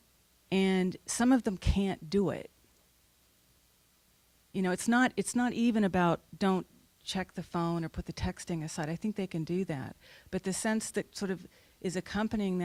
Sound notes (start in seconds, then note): none